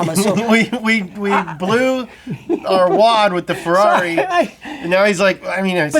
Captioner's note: laughs